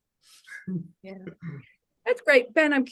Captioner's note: laughing